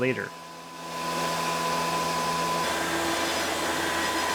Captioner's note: CNC machine whirring; CNC machine rumbling